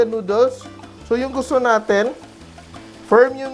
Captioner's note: sizzle